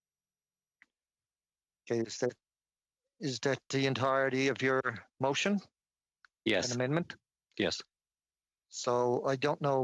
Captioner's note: silence